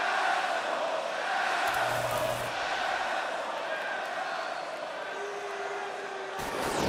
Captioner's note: crowd cheering; crowd chatter